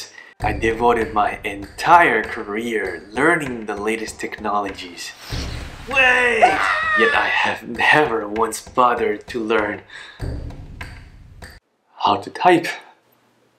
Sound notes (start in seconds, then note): 6.0 screaming